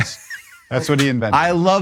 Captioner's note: laughs